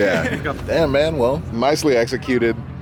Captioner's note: laughing